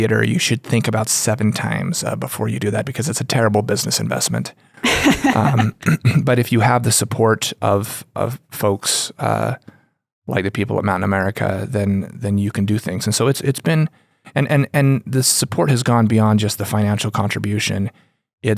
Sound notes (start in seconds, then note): 4.8 laughs